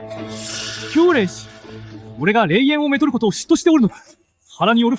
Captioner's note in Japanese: 鼻息